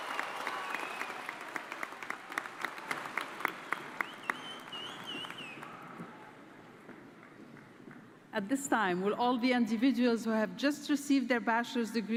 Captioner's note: applause